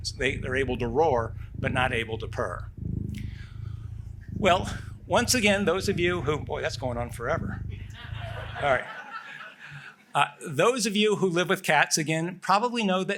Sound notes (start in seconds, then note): 7.7 laughter